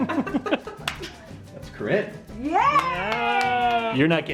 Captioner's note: laughs; claps